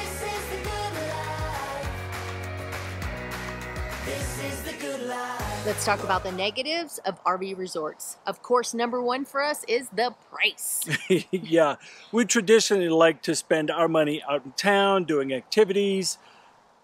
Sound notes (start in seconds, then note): 10.8 laughs